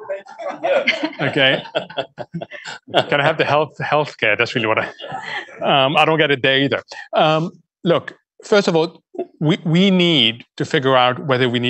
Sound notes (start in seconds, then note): 7.2 laughter